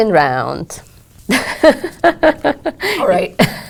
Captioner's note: laugh